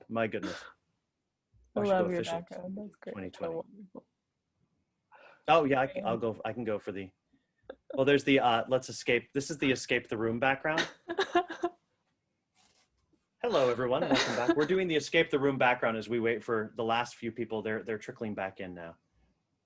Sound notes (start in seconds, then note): 10.7 laughs